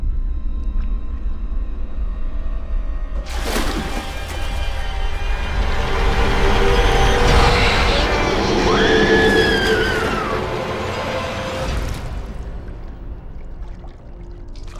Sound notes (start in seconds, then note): 3.2 water splashing; 7.3 Mattie screams